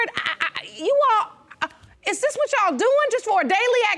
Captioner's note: stutters